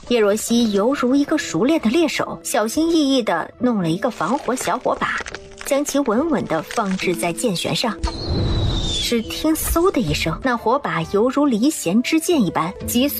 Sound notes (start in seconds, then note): 8.1 whoosh